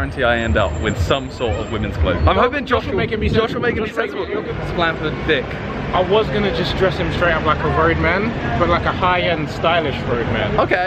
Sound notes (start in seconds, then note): none